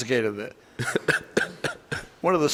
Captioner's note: defendant laughing